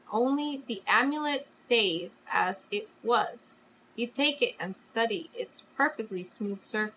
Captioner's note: none